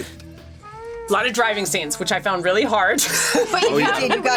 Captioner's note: laughs